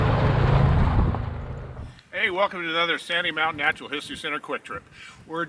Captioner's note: noise of truck going through tunnel and being driven over camera